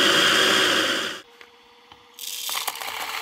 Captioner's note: grinder grinding